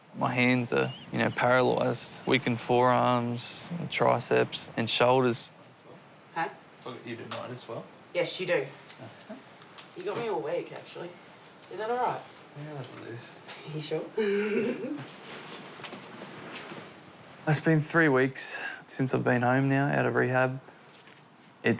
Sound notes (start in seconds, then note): 14.1 laughs